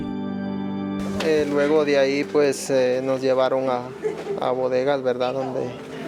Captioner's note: speaking in foreign language